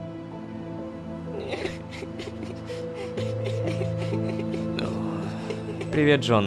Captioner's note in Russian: Плач детей